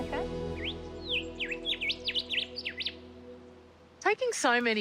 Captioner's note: birdsong